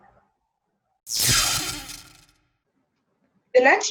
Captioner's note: zap